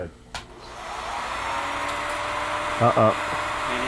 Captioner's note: projector whirring